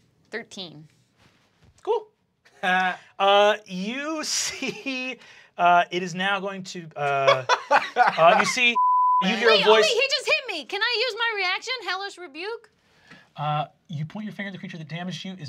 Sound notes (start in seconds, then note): 4.0 laughs; 7.0 laughs; 8.7 beep